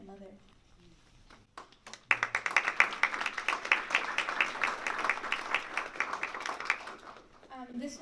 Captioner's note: applause